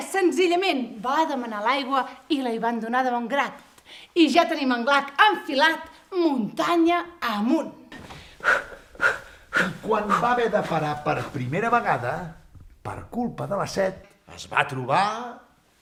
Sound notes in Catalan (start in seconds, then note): 8.0 Esbufega